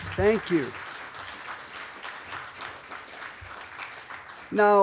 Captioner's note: applause